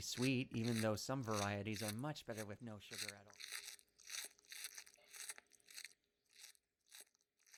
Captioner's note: voice fades, footsteps fade